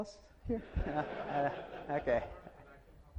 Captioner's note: audience laughs